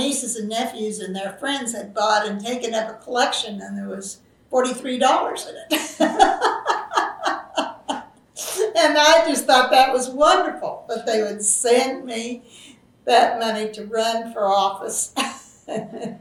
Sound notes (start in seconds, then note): 5.6 laughs; 15.1 laughs